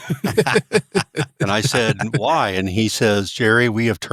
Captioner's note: both Laughing